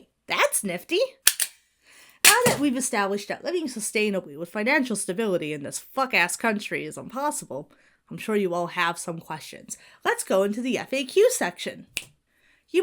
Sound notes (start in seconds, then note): 1.2 stapler clicks; 11.9 Bill snaps fingers